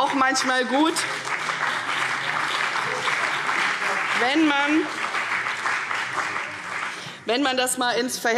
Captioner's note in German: Beifall CDU und BÜNDNIS 90/DIE GRÜNEN